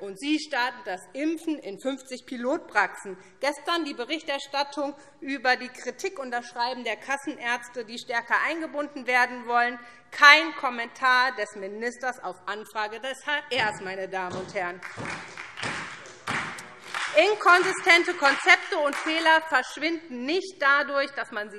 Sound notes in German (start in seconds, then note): 14.7 Beifall SPD und Freie Demokraten